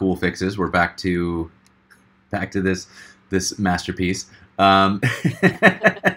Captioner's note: laughing